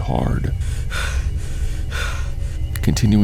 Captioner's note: panting noises